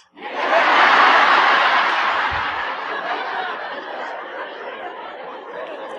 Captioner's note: laughter